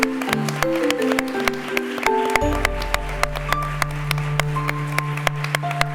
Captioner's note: applause